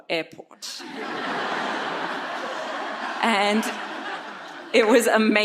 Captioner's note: audience laughs